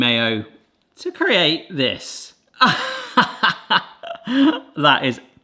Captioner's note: laughs